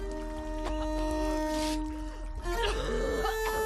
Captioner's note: choking coughing